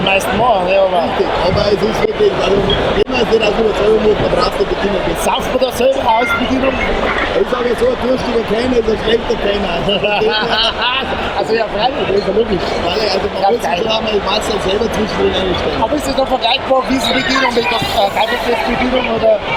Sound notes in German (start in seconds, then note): 9.8 lacht